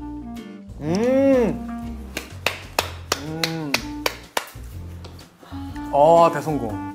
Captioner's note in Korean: 으음 짝짝짝